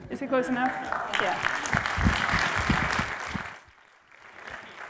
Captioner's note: applause